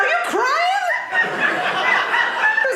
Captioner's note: audience laughing